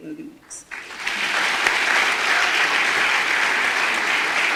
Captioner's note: audience applause